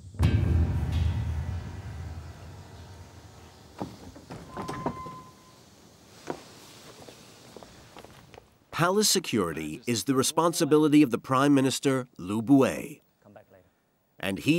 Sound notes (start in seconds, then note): 3.7 doors creaking